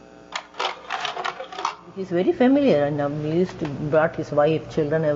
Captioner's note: slide carousel sound